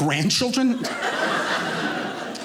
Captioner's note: audience laughing